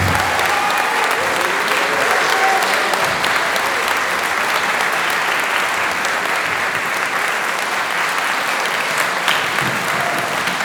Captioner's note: applause